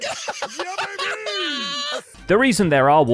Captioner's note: laughs